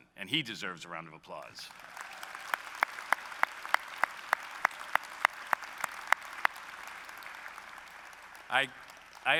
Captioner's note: applause